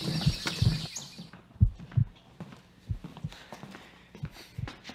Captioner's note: birds chirping